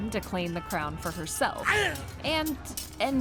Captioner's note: yell